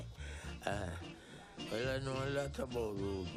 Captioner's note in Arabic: يضحك